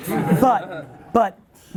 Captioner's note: laughs